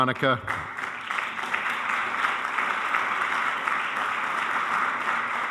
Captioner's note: audience applauding